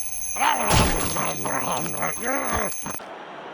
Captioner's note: eating nosily / eagerly